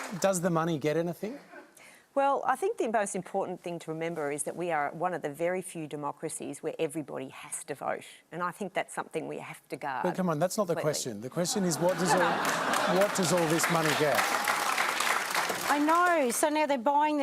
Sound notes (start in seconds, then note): 11.4 laughter; 16.6 applause